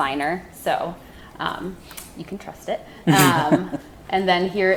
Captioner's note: laughing